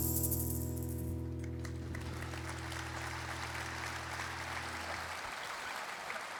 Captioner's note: applause